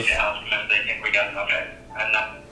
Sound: man on the Radio

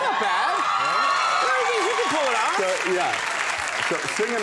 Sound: crowd cheering

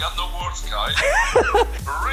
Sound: laughing

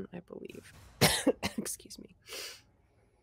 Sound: coughs

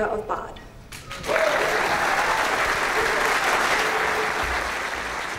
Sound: audience applauds

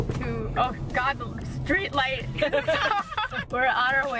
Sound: laughs

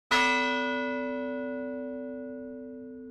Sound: bell tolls

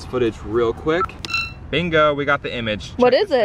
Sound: beeping

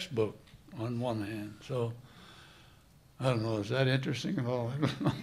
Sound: laughter

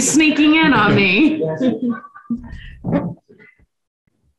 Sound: people laugh

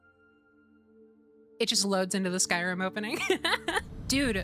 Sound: laughter

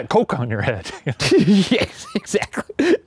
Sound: both laughing

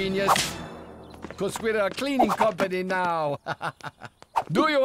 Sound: laughs

